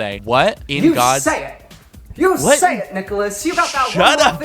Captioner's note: transatlantic accent